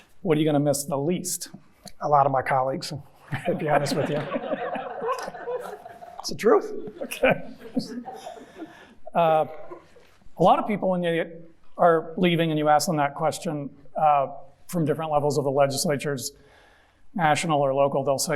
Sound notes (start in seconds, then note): 3.3 audience laughing; 8.4 chuckling